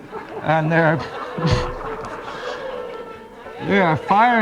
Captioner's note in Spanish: multitud aplaude